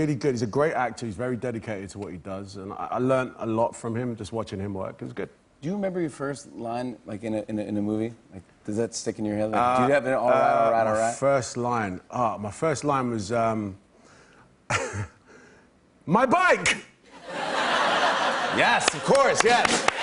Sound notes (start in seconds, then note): 14.3 laughs; 17.1 laughter